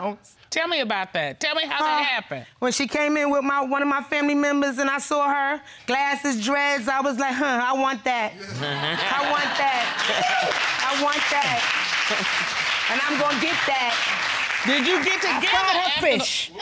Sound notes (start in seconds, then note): 9.0 audience cheering